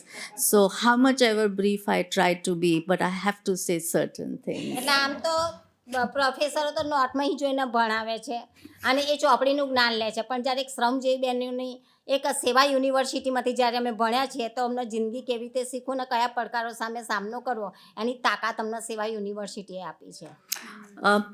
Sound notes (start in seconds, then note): 4.4 laughter; 4.9 speaking gujarati